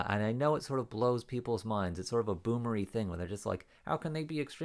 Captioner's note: thick Canadian accent